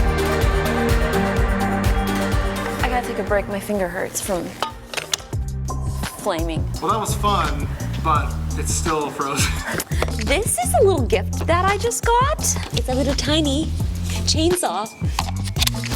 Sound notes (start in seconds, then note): 9.4 laughs